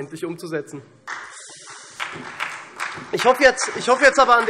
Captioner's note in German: Beifall SPD